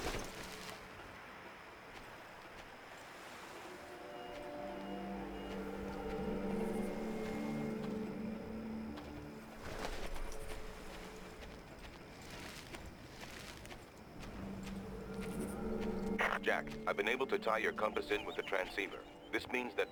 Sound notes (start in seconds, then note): 1.5 birds chirping; 3.6 tense music